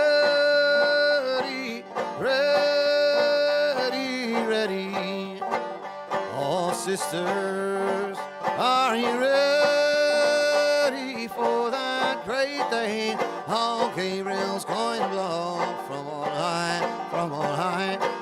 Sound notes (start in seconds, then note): none